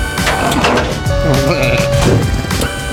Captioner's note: snoring